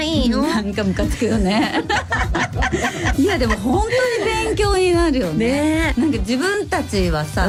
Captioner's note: laughs